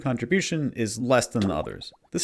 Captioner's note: Gneiss drowning